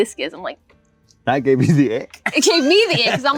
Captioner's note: laughs